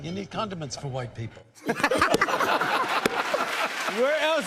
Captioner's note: laughter